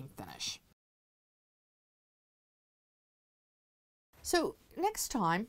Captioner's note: no Sound Present